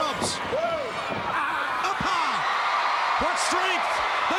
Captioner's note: crowd cheering; Sting groaning